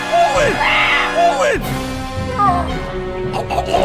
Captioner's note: thug yelling; dire orchestral music